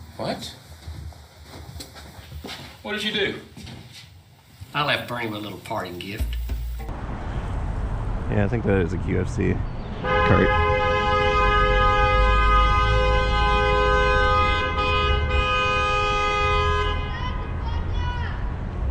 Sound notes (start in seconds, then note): 10.0 honnnnnnk; 14.7 honk honnnnk